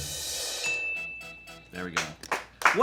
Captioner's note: bell chimes